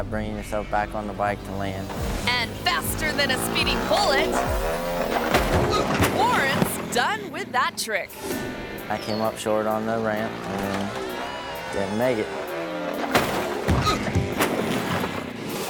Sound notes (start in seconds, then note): 4.4 motorbike revs; 5.2 thuds; 5.5 motorbike thuds; 13.0 motorbike thuds; 13.1 thuds